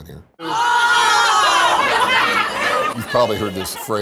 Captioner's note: shouting